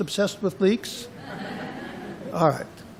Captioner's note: laughter